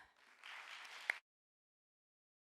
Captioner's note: audience applauds